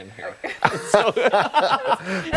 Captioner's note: laughter